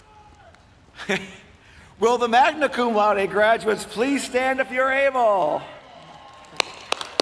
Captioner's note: applause